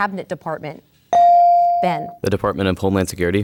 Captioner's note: ding